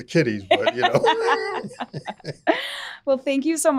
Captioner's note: both laughing